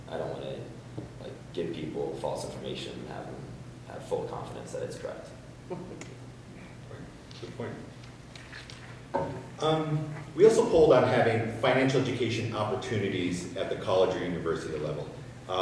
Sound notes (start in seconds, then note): 5.6 person chuckles